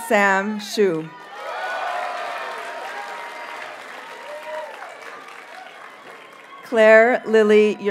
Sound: audience cheers and applauds

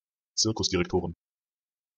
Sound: fast Pronunciation

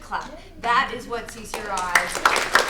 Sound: applauding

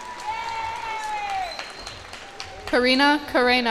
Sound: cheers and applause

